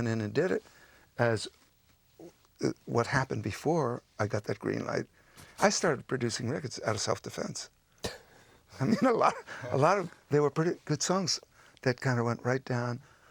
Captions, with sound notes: If somebody else went in and did it as... What happened before I got that green light, I started producing records out of self-defense. (CHUCKLES) I mean, a lot... A lot of... They were pretty good songs